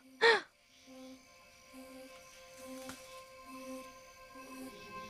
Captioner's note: insects chirping